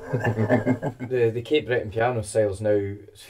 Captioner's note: laugh